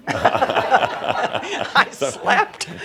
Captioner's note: laughter; she chuckles